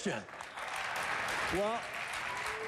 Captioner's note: applause